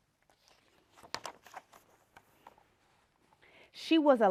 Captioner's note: page turning